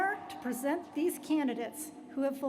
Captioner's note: applause